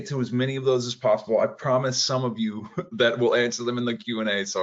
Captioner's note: laughs